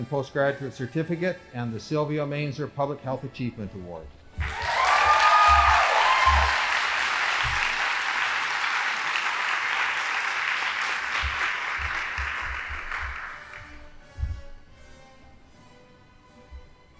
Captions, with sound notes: postgraduate certificate, and the Silvio Main's Public Health Achievement Award. (audience applauding) (band playing)